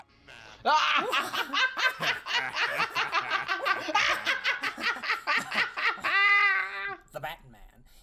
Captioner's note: all Jokers laugh as Joker-y as always